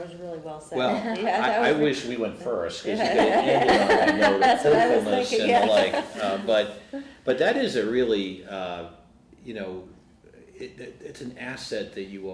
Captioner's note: laughter